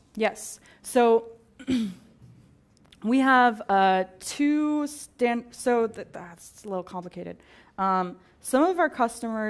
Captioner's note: cough